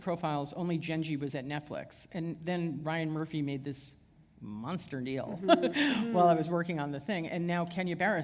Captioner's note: chuckle